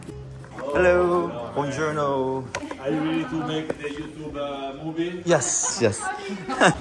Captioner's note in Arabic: بالإيطالية